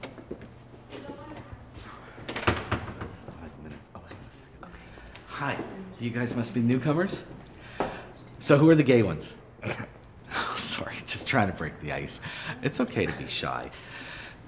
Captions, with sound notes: Hi, you guys must be new comers? So who are the gay ones? [Johnny sniggers] Sorry. 'Just trying to break the ice. It's okay to be shy.